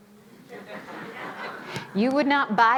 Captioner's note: audience laughing